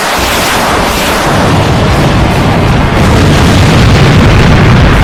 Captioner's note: bazooka firing; bomb explodes